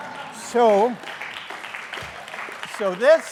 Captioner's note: applause